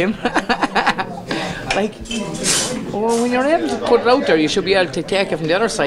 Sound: chuckles

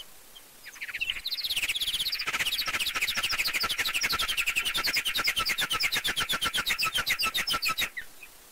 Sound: mice chirping

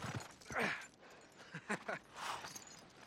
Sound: laughs

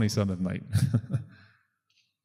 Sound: laughs

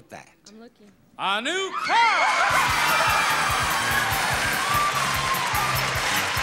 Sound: audience cheers and applauds

